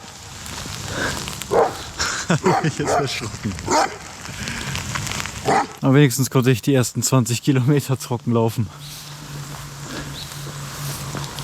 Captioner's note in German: Schnauben